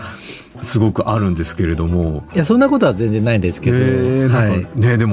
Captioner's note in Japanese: 鼻息